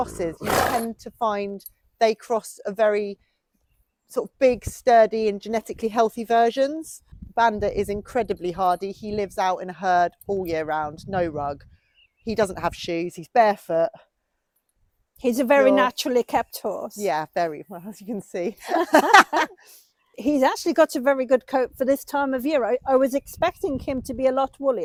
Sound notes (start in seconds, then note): 18.6 both laugh